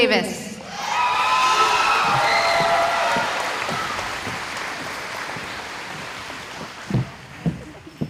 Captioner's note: cheering